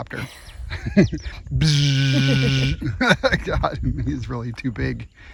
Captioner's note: laughing; buzzing